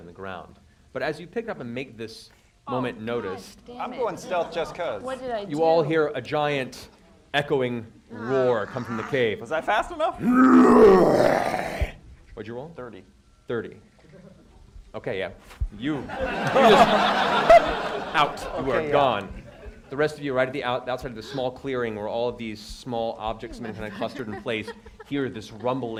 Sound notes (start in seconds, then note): 10.2 roars